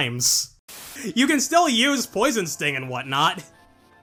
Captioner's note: static